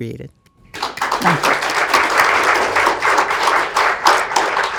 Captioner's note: attendees applauds